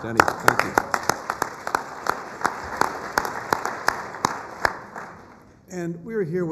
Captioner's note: applause